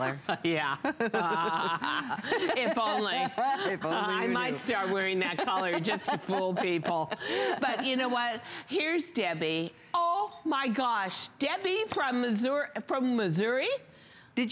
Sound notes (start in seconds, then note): 0.2 laughter